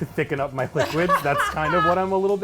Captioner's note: laughs